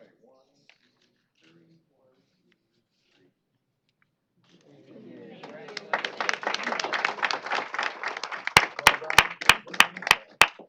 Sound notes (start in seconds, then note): 5.3 applause